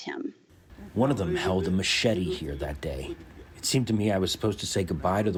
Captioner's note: through translator